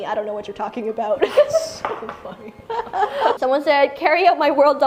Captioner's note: laughs